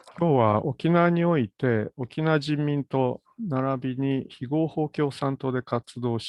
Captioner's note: speaks in Japanese